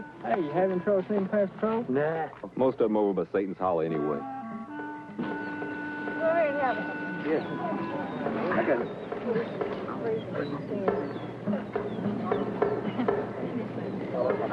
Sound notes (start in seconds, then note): 7.2 group clamoring